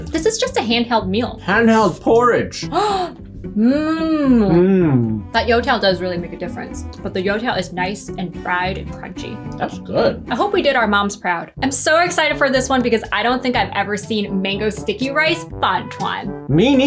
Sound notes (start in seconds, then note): 2.7 gasps